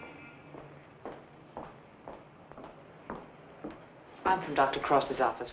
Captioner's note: vehicle honking; footsteps thumping